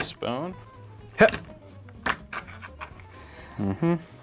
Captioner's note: bone cracking